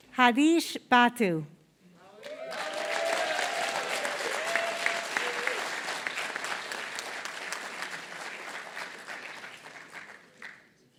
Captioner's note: applause